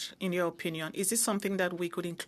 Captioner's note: speaking in French